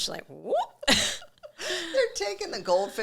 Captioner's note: both laughing